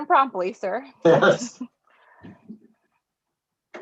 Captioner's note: chuckles